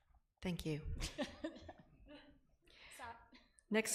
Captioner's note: laughs